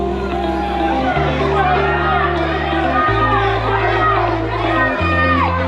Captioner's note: crowd chattering excitedly